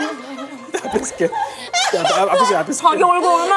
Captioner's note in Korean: 울먹